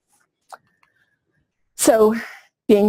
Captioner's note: pause